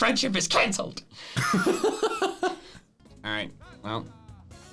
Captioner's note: laughs